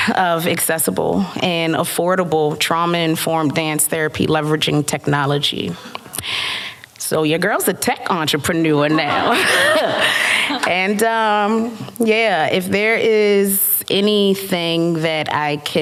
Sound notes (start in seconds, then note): 8.9 laughter